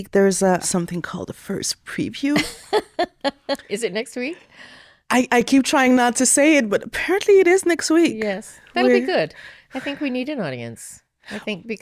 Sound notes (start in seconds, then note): 2.3 laughing